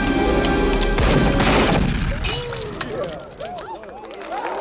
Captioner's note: gun blasting; bottle shattering; crowd clapping; crowd cheering